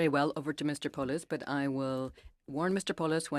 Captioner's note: speaking in French